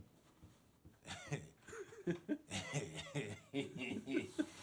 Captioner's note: chuckling